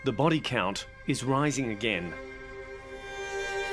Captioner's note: none